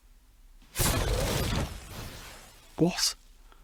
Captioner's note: silence; loud bang